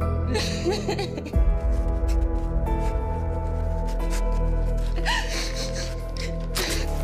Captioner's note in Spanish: Sollozos